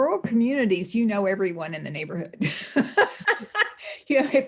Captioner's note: laughs